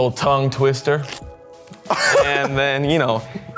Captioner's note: slurps